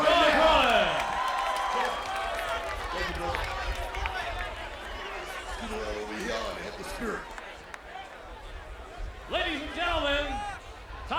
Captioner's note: applause